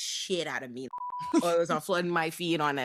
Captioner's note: beep